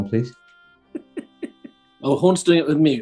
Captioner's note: giggling